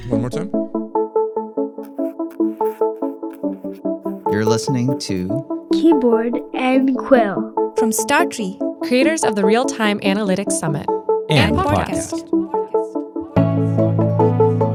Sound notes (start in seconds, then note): 0.0 upbeat music; 1.8 quill scribbling